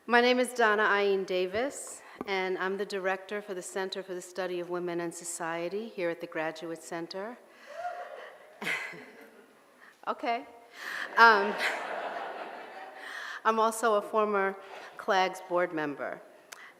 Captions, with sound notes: My name is Dana-Ain Davis. And I'm the Director for the Center for the Study of Women and Society here at The Graduate Center. (audience hoots) (laughs) Okay. (audience laughing) I'm also a former CLAGS board member.